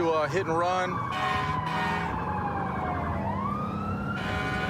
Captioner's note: emt sirens blaring